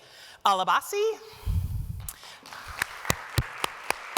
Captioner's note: applause